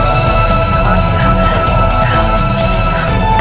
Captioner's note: Sobbing